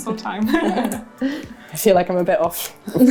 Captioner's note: laughter